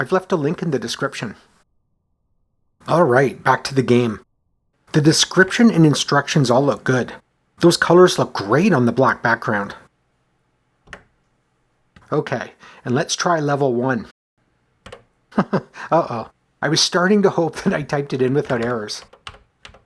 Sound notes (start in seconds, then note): 15.3 chuckles